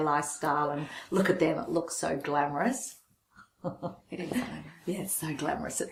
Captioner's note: laughs